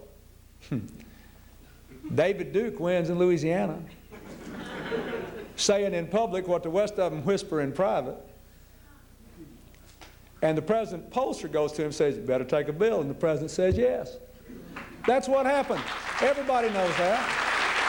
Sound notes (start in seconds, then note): 0.2 chuckles; 3.9 laughter; 17.6 applause